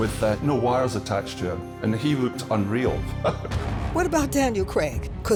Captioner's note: laughs